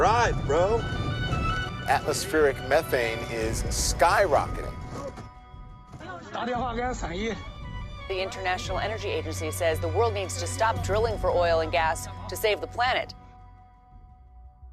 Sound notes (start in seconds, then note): 5.4 speaking Mandarin